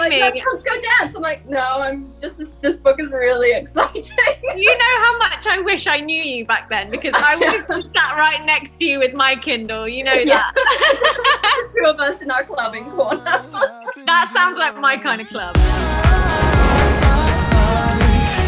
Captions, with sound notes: "Let's go dance!" I'm like, "No, this book is really exciting." (laughs) - You know how much I wish I knew you back then because I would've sat right next to you with my Kindle, you know that. (laughter) - Two of us in our clubbing corner. - That sounds like my kind of club. (upbeat music)